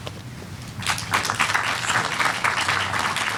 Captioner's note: applause